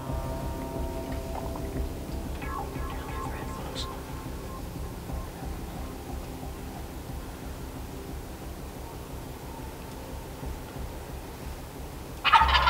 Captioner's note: whispering